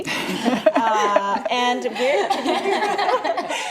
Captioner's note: laughing